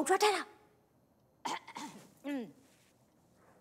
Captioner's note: Clears throat